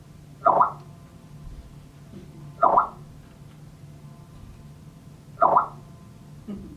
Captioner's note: Twitter sounds